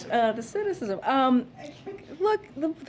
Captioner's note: laughs